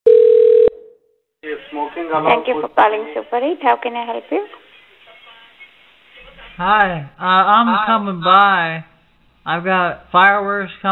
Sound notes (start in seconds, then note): 0.0 phone rings